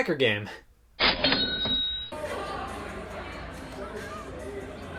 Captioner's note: cashier dings